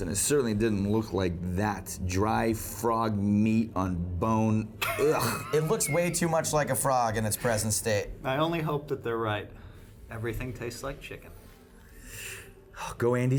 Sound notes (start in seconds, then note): 4.5 disgusted sound; 4.8 laughs